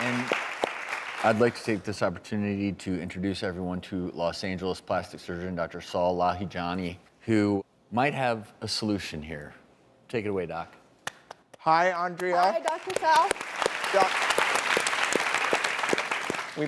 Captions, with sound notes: And I'd like to take this opportunity to introduce everyone to Los Angeles plastic surgeon Dr. Saul Lahijani who might have a solution here. Take it away, doc. Hi, Andrea. Hi, Dr. Saul. (clapping)